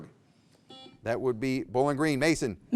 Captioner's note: buzzer beeps